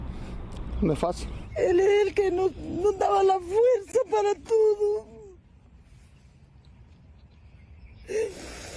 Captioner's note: speaking in a global language